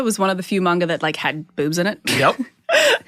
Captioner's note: laughs